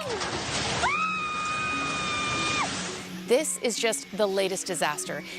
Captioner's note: screaming